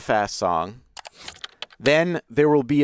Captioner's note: keys clacking